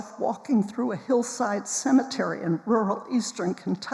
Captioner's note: none